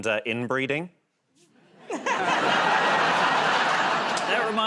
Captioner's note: laughter